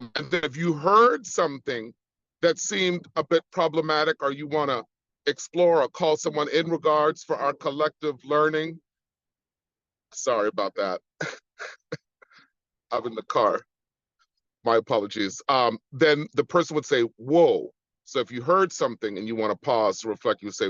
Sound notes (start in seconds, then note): 11.1 chuckles